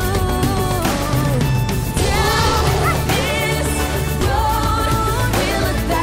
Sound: elephant trumpets

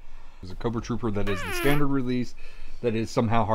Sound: fart noise

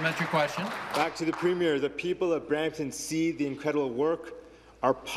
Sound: applause

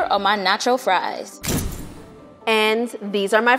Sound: dramatic thump

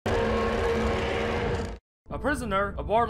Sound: roar

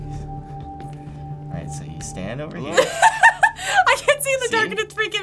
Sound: laughs

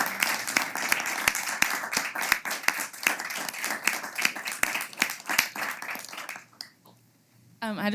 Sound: applause

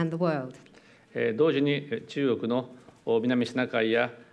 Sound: speaking japanese

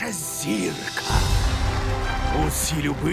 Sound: applause

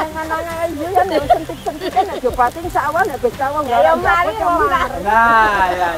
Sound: laughs

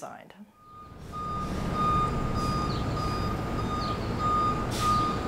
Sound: truck backing up beeping

